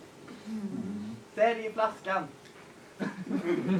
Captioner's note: laughter